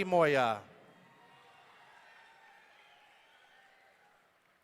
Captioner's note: audience cheering